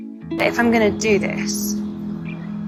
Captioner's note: voiceover